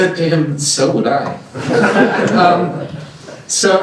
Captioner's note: laughter